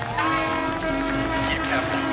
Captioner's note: horn blaring